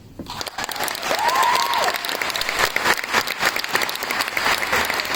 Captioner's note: applause